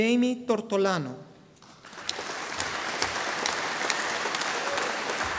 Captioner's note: audience applauding